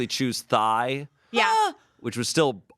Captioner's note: yells